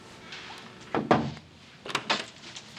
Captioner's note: knock at door